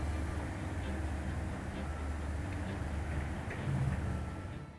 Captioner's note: rushing water